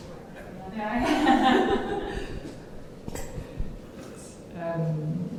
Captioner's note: panelists laughing